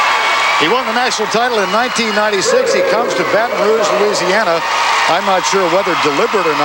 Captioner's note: crowd Cheering